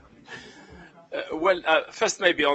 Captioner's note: laughter